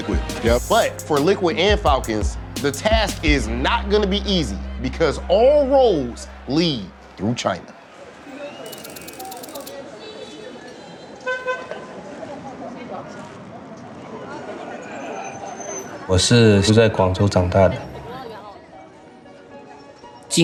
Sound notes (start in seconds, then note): 8.6 car horns honking; 8.6 indistinct chatter